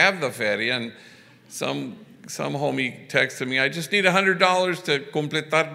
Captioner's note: foreign language